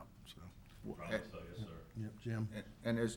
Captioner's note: man speaking distantly